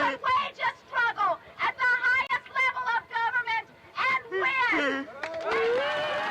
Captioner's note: cheers